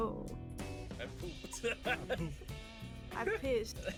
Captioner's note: laughs